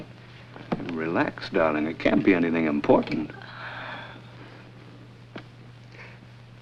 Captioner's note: exhales